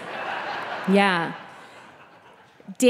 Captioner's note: audience laughing